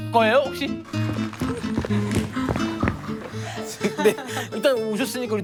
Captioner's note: exerting